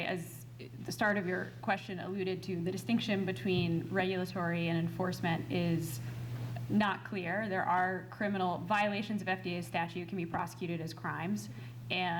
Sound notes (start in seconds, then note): none